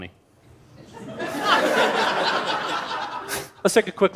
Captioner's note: laughter